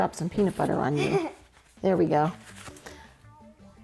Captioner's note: chuckles